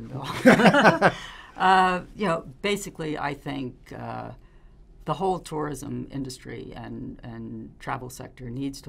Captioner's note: laughing